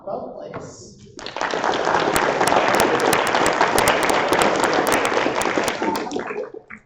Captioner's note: applause